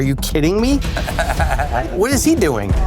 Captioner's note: laughs